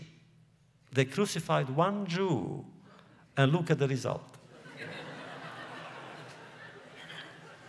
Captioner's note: laughter